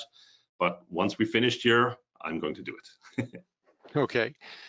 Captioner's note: laughing